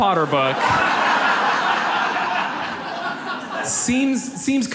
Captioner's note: audience laughs